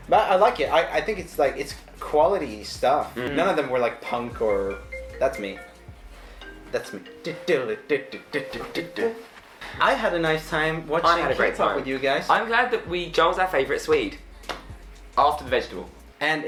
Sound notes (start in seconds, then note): 4.0 phone rings; 7.6 singing along with the phone